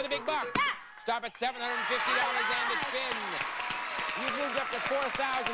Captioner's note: audience cheering